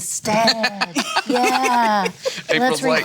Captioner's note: laughing